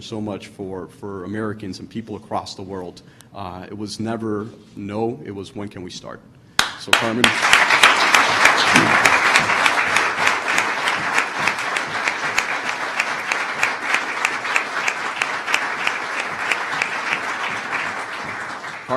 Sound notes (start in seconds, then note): 12.5 applause